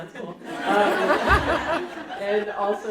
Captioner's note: audience laughing